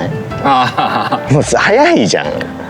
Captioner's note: laughs